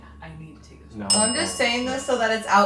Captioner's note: bell dings